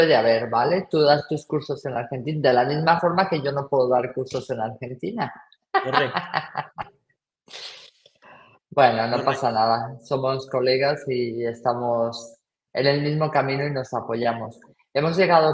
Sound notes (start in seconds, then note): 5.8 laughs